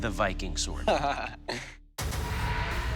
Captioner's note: laughs